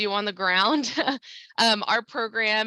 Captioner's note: chuckles